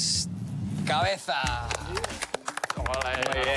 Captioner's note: applause